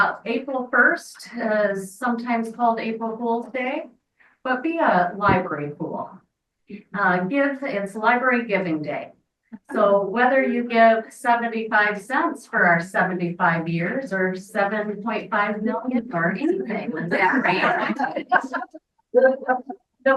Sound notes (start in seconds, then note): 16.2 speaks faintly; 16.4 members laughing